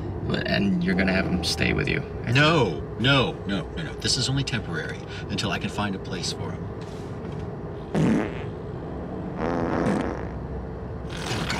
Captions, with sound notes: And you're gonna have him stay with you ? No! No, no, no ... this is only temporary until I can find a place for him. [LOUD FART FROM BACKSEAT] [MORE FARTS]